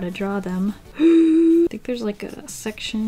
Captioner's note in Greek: Κοφτή ανάσα